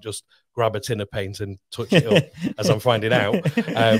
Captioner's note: laughing